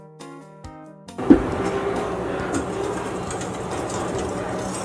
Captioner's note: whisk clanking